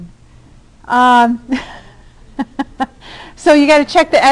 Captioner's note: laughing